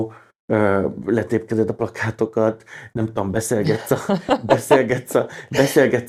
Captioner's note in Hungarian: nevetés